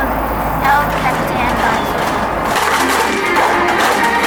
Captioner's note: cups shaking